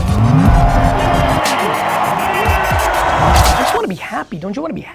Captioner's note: crowd cheers